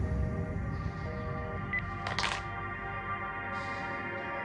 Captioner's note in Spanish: Tono de ocupado en la línea